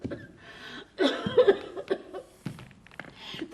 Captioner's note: πνιχτός βήχας